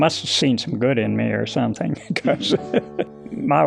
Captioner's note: chuckles